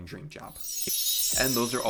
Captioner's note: chime sound